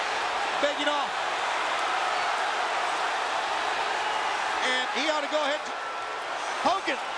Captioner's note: applause